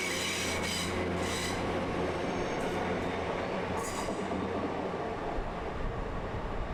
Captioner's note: train engine